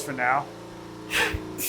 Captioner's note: laughs